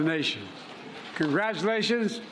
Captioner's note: cheers and applause